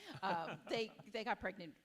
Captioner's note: chuckles